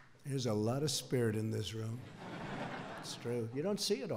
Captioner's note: laughter